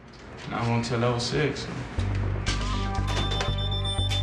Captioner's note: beeping; electronic music